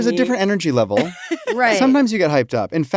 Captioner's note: laughs